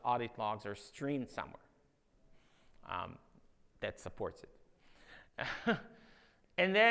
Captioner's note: laughs